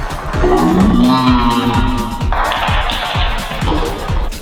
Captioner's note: scary noise